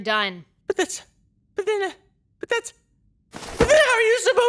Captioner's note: stammers